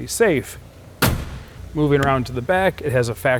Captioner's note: car door closes